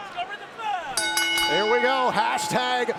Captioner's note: bell rings